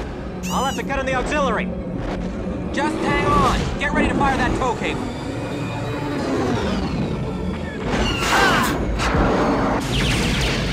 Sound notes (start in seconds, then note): 5.5 engine whine; 7.9 blaster shots; 9.0 explosion